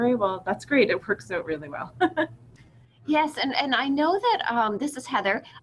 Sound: laughs

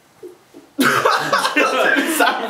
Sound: laughing

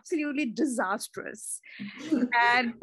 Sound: laughs

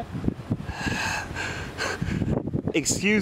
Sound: laughing

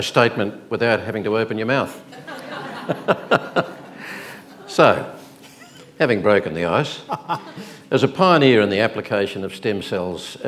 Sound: laughs

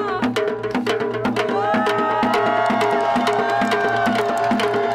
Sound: people cheering

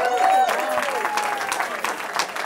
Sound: cheering

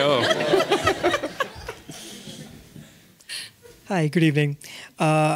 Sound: audience laughing

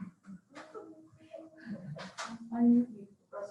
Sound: members laughing

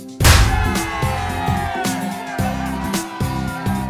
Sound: cheering

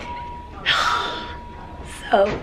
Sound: sighs

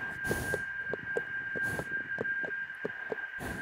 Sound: distant footsteps

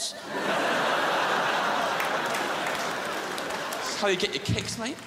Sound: crowd laughs

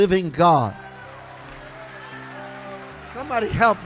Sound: congregation cheering

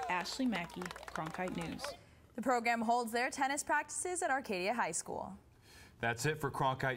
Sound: cheers and applause

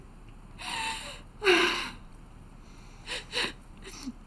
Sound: sobs

